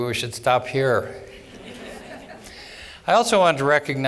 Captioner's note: laughter